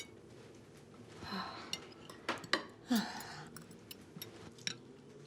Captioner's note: Tracy sighs